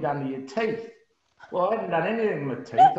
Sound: laughs

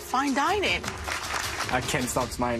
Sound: clapping

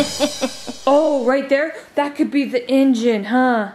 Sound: laughing

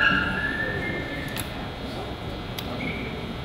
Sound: floor squeaks

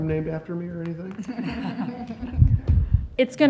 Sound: laughter

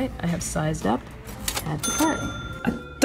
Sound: cash register ring

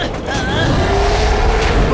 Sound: roaring

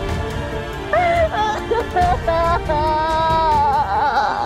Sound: sad music playing; crying

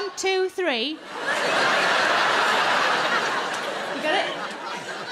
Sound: crowd laugh

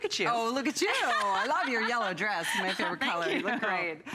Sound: laughter

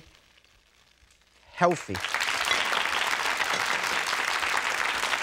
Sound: audience claps

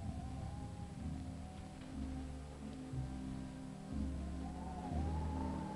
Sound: pensive music; wind howling

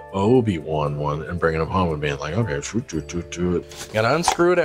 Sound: mouth sounds

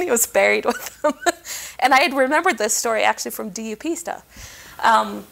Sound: chuckling

